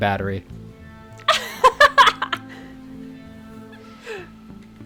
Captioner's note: laughs